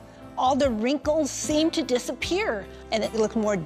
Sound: none

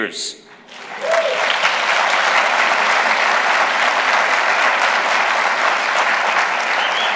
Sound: applause

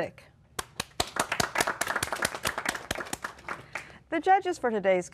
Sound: applause

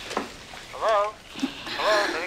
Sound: on phone

